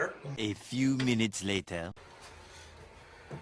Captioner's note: French voiceover